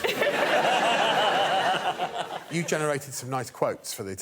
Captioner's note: laughter